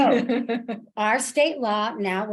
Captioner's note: laughs